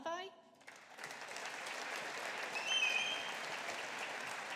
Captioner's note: audience applauding